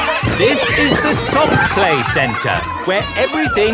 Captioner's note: loudly over shouting